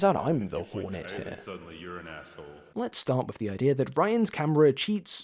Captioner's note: video echoes